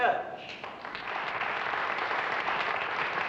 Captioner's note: applause